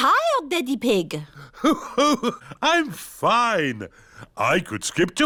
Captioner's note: laughs